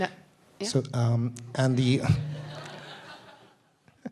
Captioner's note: audience laughing